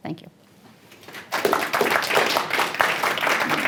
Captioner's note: applause